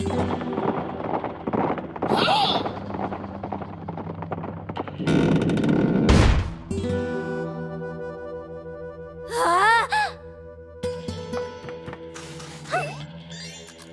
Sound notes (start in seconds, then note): 0.1 horses clopping; 0.2 doors slams; 9.3 Princess Peach screeches; 10.9 western music